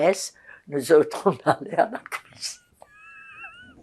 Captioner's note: laughing